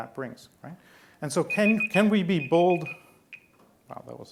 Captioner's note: beeping